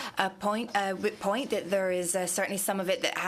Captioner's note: speaking French